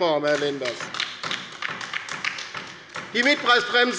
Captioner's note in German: Beifall bei der LINKEN